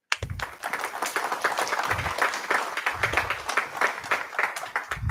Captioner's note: applause